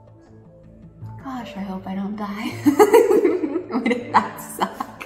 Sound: laughs

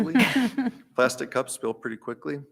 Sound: laughing

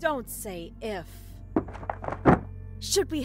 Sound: closet door open

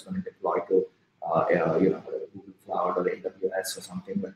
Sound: speaking softly

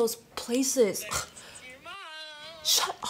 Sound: scoffing

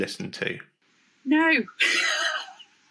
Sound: laughs

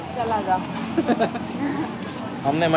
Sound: laughing

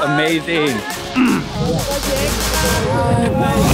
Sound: Zach grunts of excitement; upbeat music

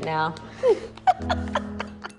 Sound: laughs

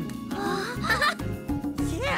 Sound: chuckles

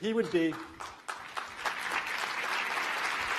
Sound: applause

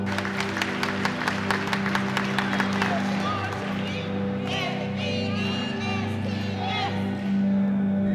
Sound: applause

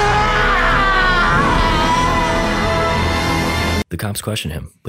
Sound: Kuramori screaming

